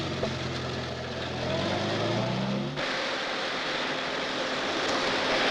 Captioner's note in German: Das Rauschen des fließenden Wassers wird lauter